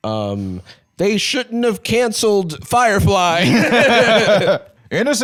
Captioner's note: both laughing